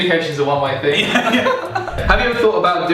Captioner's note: laughing